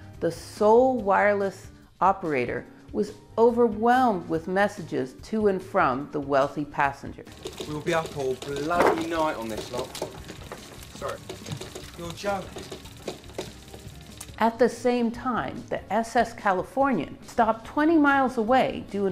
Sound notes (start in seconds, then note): 7.3 indistinct chatting